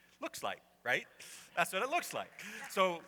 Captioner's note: laughter